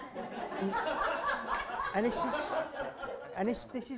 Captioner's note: laughter